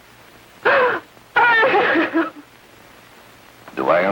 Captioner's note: crying